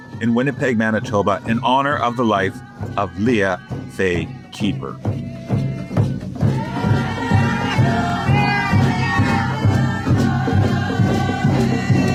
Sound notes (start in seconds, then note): 5.6 drums beating; 6.4 supporters chanting